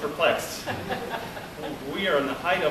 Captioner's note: laughter